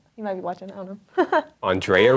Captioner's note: laughing